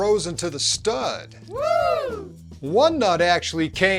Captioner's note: audience wooo!